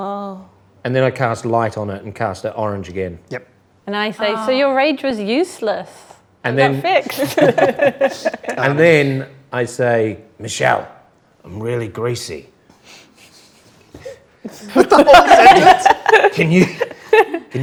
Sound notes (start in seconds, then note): 6.8 laughs; 14.6 laughing drowns out speaker